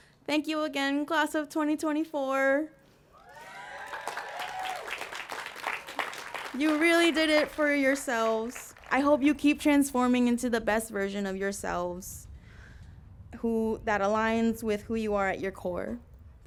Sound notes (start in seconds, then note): 3.2 applause